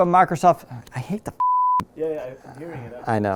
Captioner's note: beeping